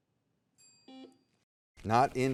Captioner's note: soft beeping